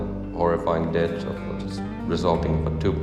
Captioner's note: speaks faintly